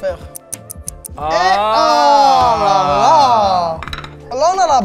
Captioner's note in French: exclamations